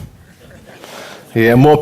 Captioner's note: audience laughter